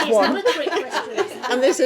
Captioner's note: laughing